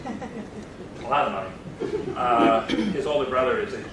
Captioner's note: laughter